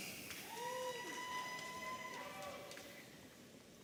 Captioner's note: audience cheering